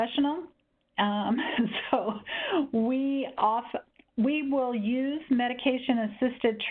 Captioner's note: laughing